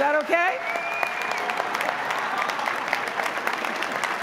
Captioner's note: applause